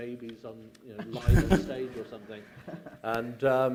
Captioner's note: laughter